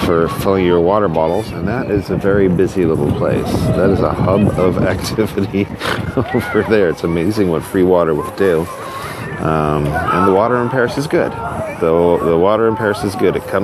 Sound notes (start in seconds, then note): 5.8 snort-laugh